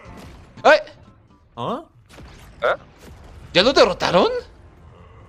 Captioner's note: surprise Sound